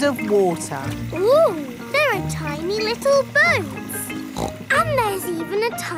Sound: snorts

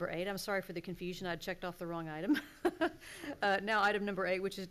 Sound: laughing

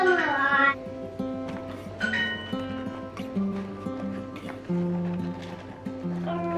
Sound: soft acoustic music; gadget beeps

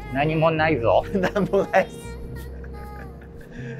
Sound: laughing

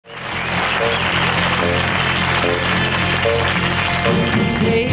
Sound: audience applauding

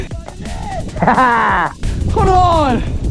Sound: laughs

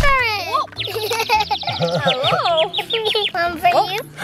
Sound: birds chirping; laughs

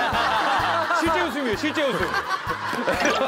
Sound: laughing

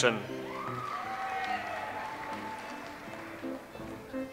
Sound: audience applauds

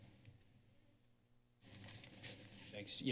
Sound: silence; rustling sound

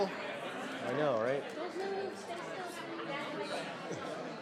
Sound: people chattering

